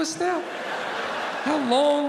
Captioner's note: audience laughing